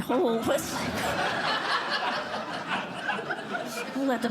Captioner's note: laughter